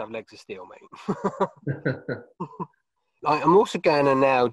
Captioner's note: laughs